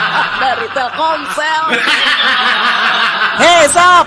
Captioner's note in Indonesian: tertawa